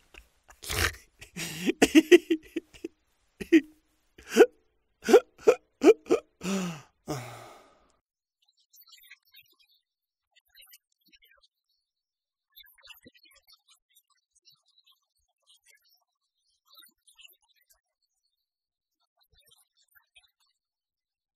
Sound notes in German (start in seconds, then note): 9.8 Weinen